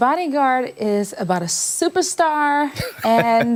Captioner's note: laughter